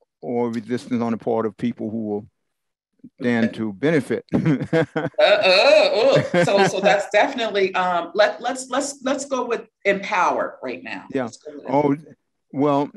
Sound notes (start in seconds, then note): 4.3 laugh